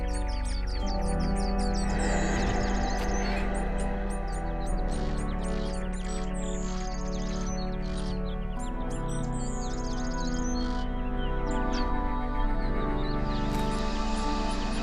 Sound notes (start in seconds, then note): 5.0 birds chirping; 5.0 melancholy music